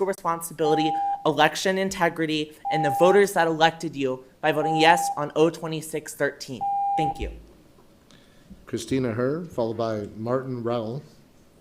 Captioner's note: loud beeping